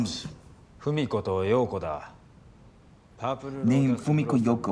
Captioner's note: speaking in foreign language